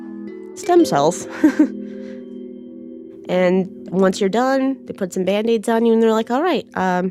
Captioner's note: laughs